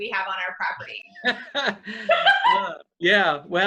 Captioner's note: laughs